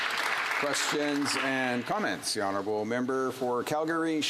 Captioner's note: some applause